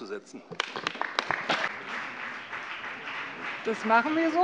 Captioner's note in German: Beifall BÜNDNIS 90/DIE GRÜNEN, CDU und vereinzelt SPD